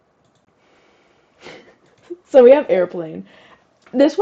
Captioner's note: giggle